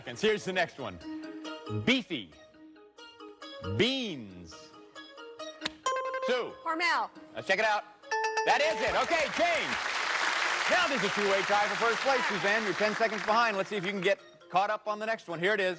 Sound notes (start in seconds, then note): 5.7 buzzer rings; 8.1 bell rings